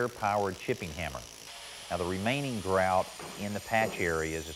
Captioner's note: mason drilling; blade whirring